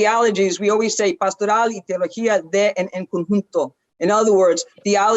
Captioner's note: speaks foreign language